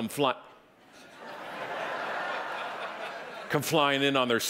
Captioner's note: audience laughing